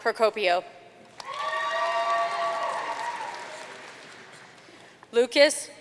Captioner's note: audience cheering and applauding